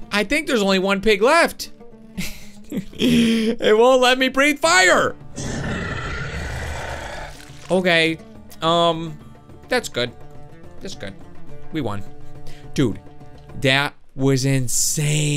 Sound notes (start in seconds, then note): 2.7 laughs; 5.3 dragon roars